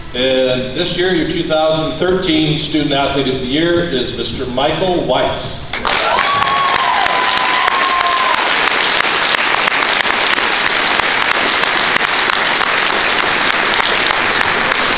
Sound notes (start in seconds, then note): 9.1 cheering